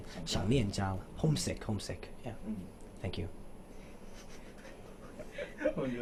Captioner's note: interviewers laughed cos he said thank you for no reason